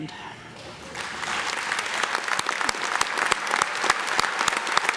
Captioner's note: audience clapping loudly